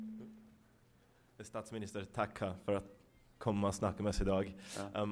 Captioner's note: non-english speech